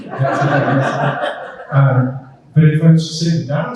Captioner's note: group laughing